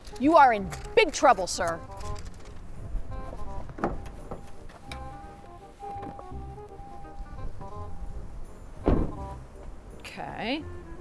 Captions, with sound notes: You are in big trouble, sir. (vehicle chiming) (car door shuts) Okay.